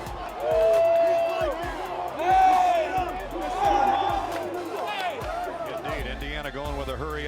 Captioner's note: loud cheering from crowd